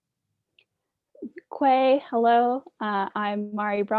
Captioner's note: speaking Indigenous Language